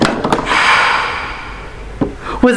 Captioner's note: spooky gasp